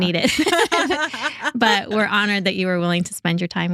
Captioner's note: both Laughing